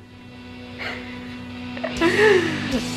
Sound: giggles

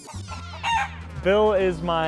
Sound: squawk

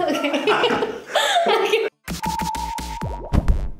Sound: laughing

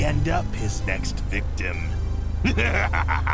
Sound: laughter

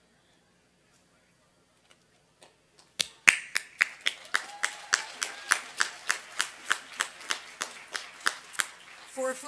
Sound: applause

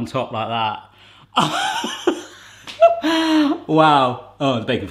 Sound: laughing

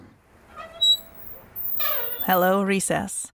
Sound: sound of brakes

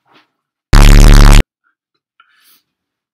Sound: bffffffffffffffffffffffffffffffffffffffffft

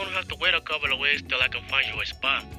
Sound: voiceover

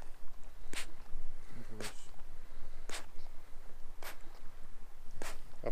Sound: humbolt squid huffing sounds

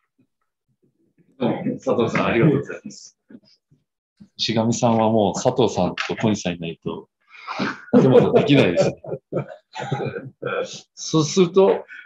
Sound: laughs

